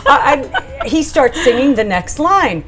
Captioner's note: Tamsen laughing